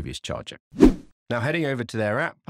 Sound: swooping transition

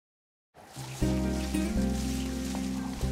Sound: wind

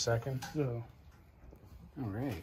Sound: man mumbles

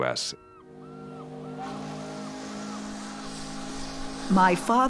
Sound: muffled boat whistle

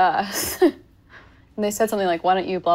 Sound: chuckling

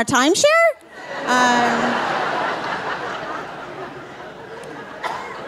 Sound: audience laughing

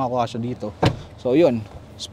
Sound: seat thuds

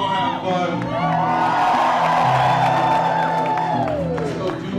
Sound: cheering

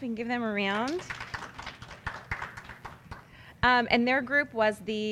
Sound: applause

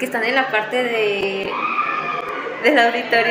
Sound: scream

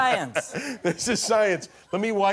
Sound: laughter

